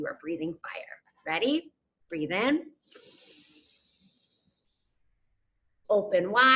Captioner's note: inhales deeply